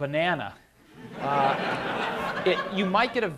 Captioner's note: laughter